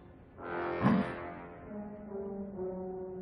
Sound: grunting

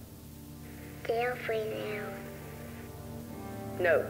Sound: In Jess’s own voice

